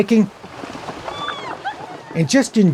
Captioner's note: women laughing